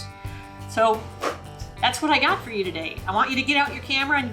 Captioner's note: claps hands